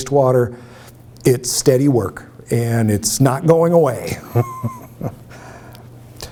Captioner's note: laughs